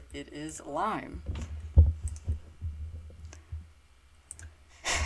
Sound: mouse clicking

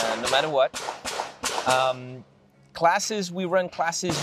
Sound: gunfire popping

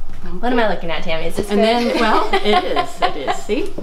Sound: laughing

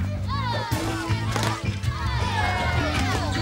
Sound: exclaiming

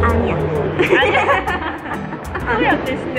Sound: laughs

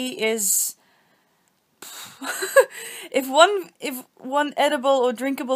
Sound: more of that pfffff-ing

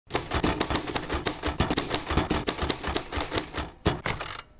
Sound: typewriter clacking

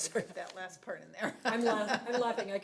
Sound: people laughing

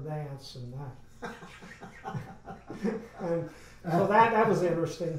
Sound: men laugh

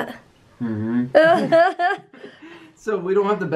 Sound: laughter

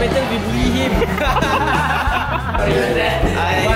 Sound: everyone Laughing

